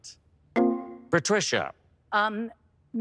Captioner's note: electric chime